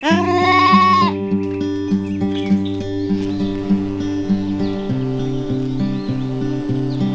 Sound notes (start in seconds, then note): 0.0 Lamb baas for Mommi Sheep, bees buzzing, birds singing